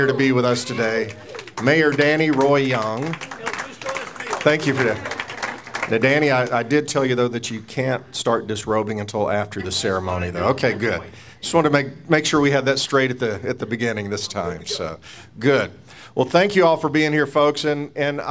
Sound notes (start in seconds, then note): 3.9 audience applauds